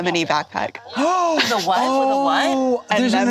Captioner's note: gasps